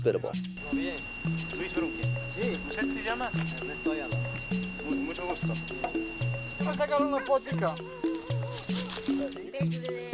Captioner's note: foreign Language